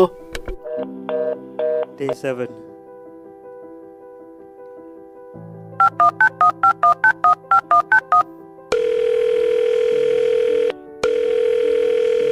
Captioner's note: crackling on Line